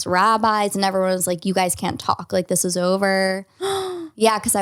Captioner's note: gasps